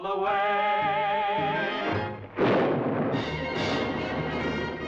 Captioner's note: thunderclap